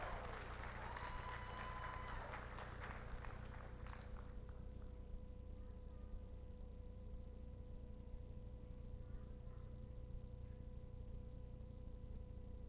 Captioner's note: applause